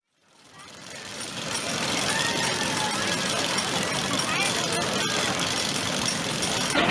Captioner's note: satisfying Roller Coaster Sound Effects